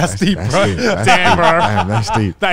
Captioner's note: laughs